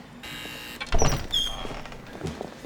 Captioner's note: door buzzes